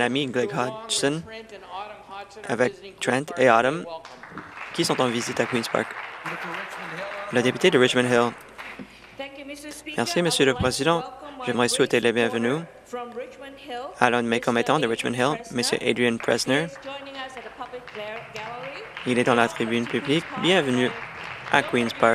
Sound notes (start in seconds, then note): 9.9 applause